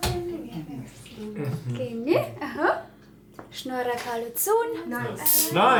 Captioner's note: in Armenian